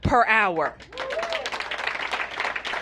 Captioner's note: applause